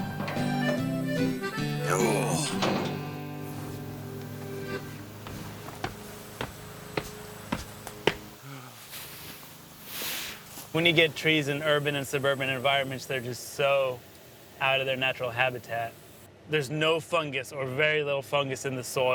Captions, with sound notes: Oh! (groaning) (truck gate clanging) (footsteps thudding) When you get trees in urban and suburban environments, they're just so outta their natural habitat. There's no fungus or very little fungus in the soil.